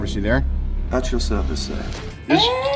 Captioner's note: robotic Voice